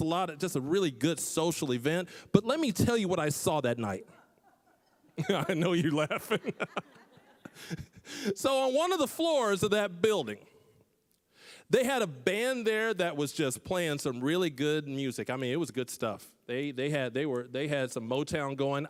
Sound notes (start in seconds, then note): 4.1 laughing; 7.4 scattered laughing